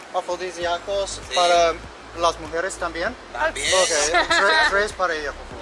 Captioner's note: man speaking in foreign language; men speaking in foreign language